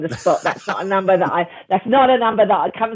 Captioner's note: laughter